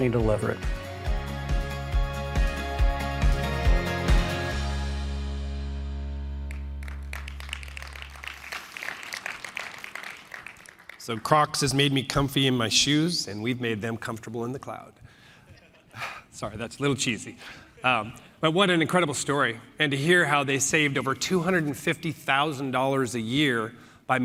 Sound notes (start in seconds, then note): 6.4 applause